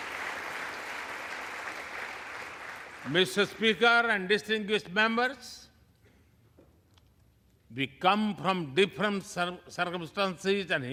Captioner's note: applause